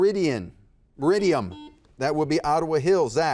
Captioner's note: buzzer buzzes